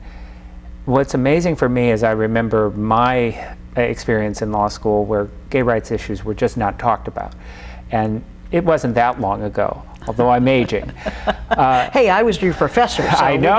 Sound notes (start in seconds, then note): 10.0 chuckling